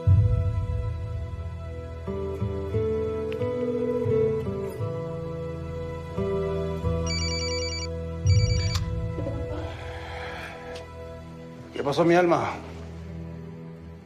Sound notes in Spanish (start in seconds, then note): 7.0 Suena celular